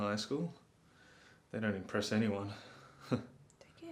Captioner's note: laughing